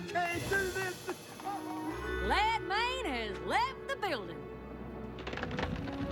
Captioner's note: sobbing